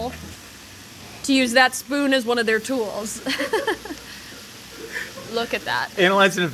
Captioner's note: chuckles